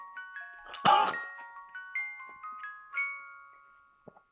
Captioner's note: Jacob coughs